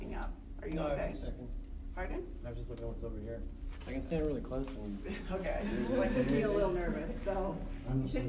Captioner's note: laughs